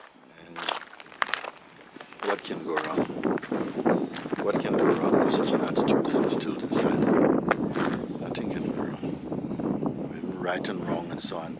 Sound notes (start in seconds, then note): 6.7 sounds of thunder